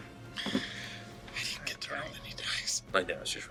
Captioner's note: whispers